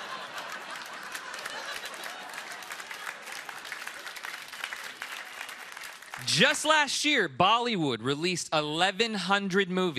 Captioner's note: laughter